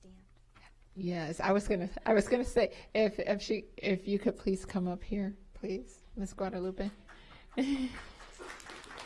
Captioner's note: applause